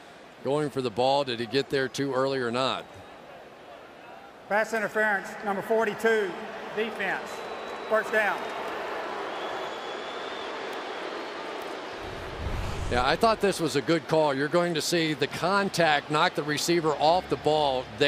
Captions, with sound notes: Was he going for the ball? Did he get there too early or not? Pass interference, number 42, defense. First down. [booing] Yeah, I thought this was a good call. You're going to see the contact knock the receiver off the ball